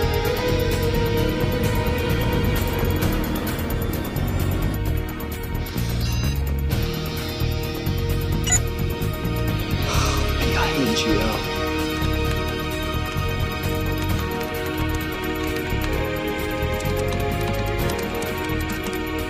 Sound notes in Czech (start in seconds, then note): 5.9 Pípání; 9.8 Výdech